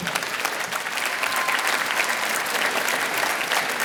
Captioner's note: applause